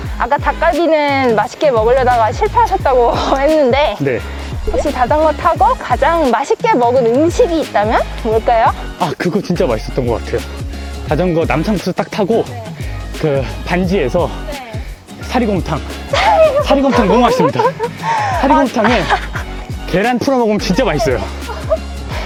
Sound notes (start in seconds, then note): 16.1 laughter